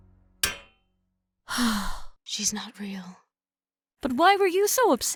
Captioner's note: tiny tap; sigh of relief